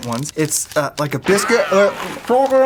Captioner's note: ricochet